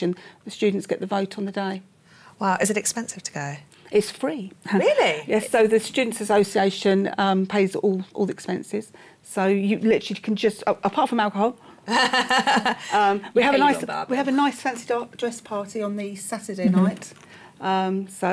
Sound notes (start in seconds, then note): 11.8 laughter